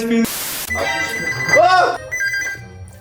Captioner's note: phone ringing